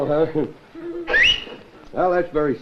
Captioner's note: whistles